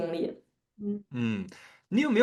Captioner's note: nonverbal grunt as interjection